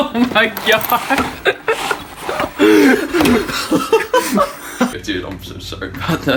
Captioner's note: laughing